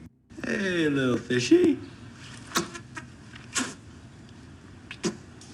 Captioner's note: imitates fish blubbing